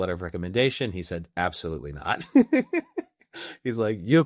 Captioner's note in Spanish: Riendo